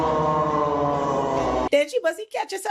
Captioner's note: audience groans